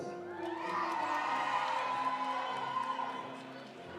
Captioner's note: audience applauding; audience cheering